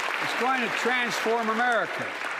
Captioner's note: applause